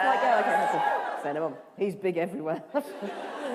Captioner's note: cheers